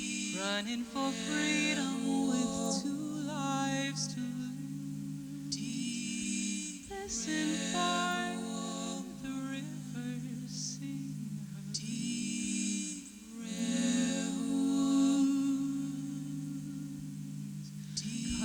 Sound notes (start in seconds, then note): 15.1 rhythmic wooing